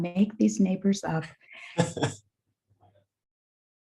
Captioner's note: chuckles